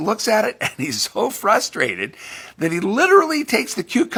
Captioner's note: laughs